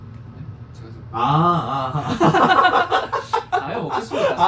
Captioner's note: sigh